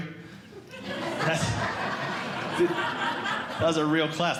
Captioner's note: audience Laughing